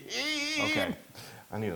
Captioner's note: laugh